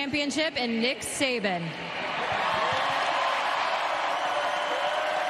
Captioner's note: cheers and applause